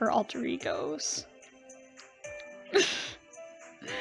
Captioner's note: laughs